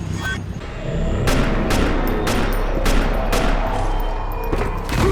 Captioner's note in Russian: пап-пап-пап-пап-пап